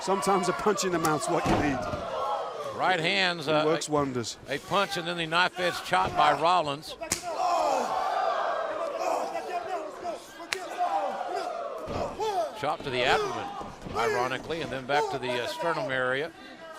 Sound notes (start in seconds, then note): 6.9 crowd chatter